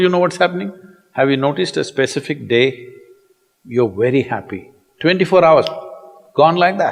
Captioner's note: snaps fingers